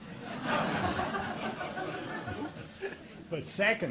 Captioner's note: audience laughing